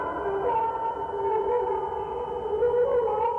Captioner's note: humming